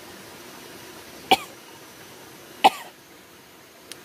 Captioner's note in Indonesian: batuk